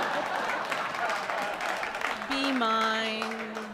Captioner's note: laughter; applause